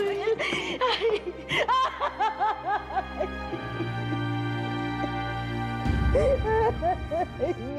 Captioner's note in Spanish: sollozos